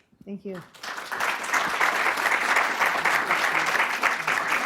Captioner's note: class clapping